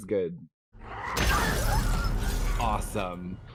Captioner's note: Anna screams; glass shatters